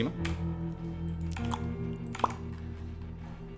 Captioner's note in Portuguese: sons de boca